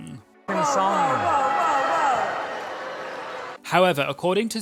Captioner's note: audience booing in background